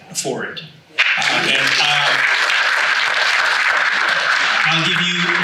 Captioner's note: audience applauds